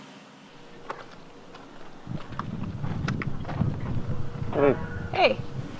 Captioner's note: gravel crunching